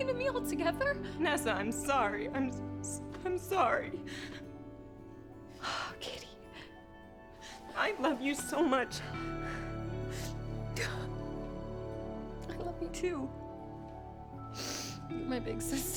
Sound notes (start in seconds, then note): 12.3 sisters sniffling